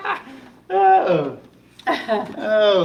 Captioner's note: laughing